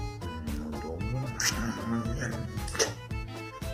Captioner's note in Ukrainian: кряхтит старается